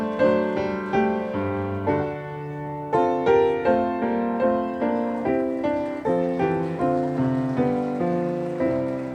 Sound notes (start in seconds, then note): 4.9 audience cheering; 5.6 audience applauding